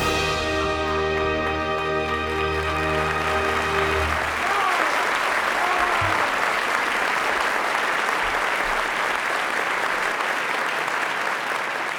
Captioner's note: applause